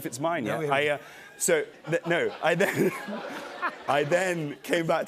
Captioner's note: laughter